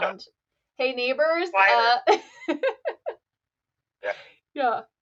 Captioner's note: laughs